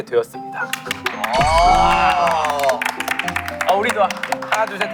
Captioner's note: applaud